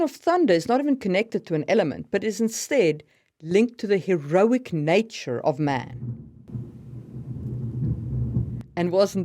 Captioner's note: thunder booms